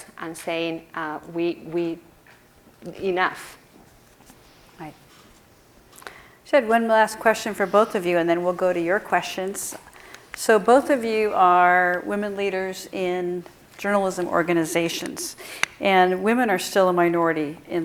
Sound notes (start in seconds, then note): none